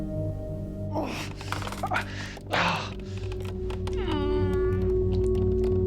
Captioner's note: Rico moaning and groaning